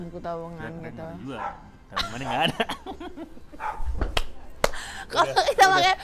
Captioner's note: laughs